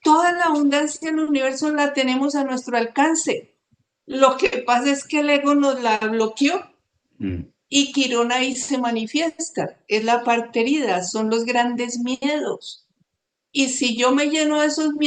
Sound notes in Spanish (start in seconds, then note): 7.2 carraspeo